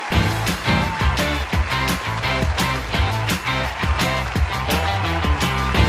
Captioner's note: audience applaud; upbeat music